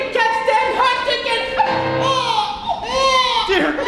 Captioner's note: frighteningly-realistic baby cry